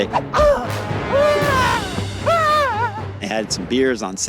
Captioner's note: yelling